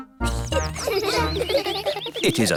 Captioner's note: children giggling